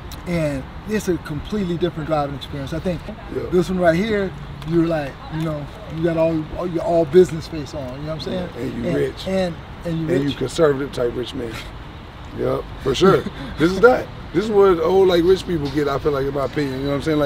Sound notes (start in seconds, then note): 12.9 laughing